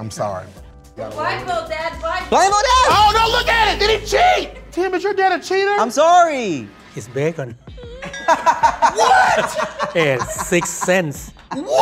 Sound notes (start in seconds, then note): 8.0 all laughing